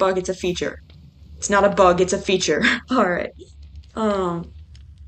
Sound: laughs

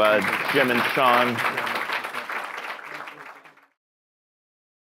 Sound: audience clapping

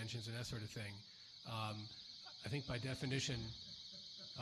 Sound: alarm sounds

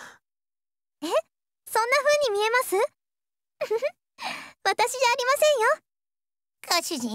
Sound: giggle

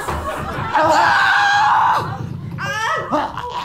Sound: screaming

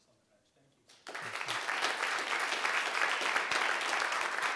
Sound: audience applauding

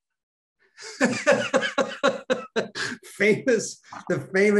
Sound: Denis laughing

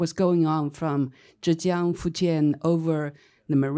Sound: foreign speech

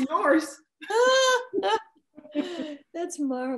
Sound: laughs

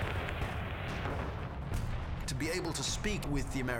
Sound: explosions

